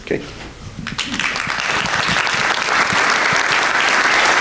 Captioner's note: applause